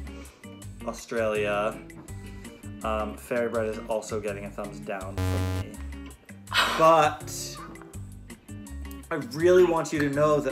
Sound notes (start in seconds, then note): 5.2 buzzing